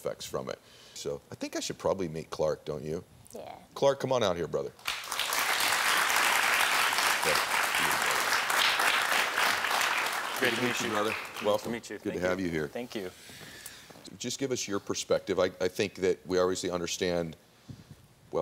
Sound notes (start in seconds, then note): 4.8 audience applauding